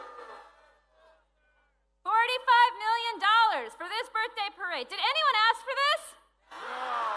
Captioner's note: cheering